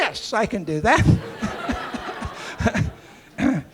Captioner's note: laughter